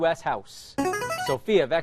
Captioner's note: chiming